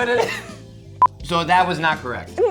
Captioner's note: beep